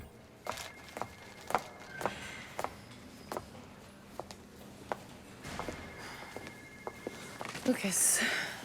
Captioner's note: footstep